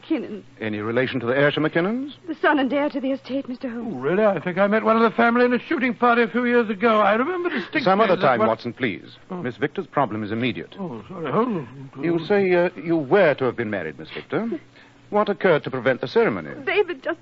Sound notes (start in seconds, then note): 8.3 crying